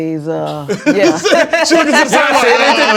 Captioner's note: laughter